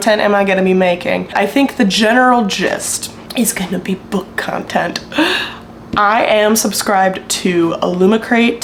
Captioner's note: gasp